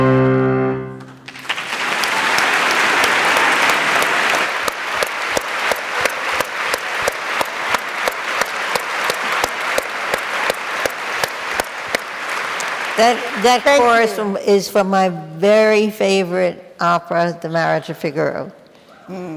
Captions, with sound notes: (audience applauds) (clapping) - That chorus is from my very favorite opera, The Marriage of Figaro.